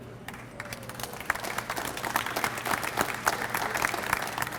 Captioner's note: audience applauds